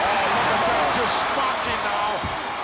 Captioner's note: audience cheers